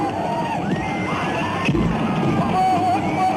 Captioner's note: horses whinnying; men screaming